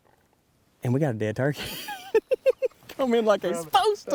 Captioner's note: laughing